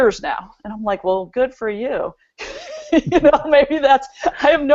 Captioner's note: chuckles